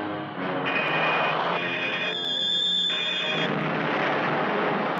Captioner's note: laser blasting